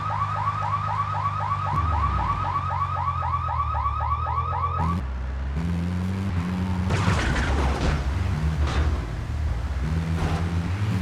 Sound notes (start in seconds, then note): 4.1 sirens blaring; 5.1 gun firing